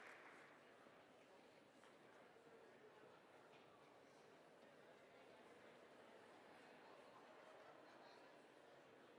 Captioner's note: applause